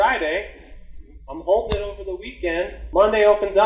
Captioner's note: hands slapping